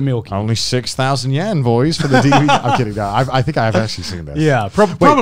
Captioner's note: murmurs